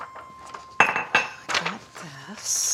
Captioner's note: papers rustling; mug clanking on counter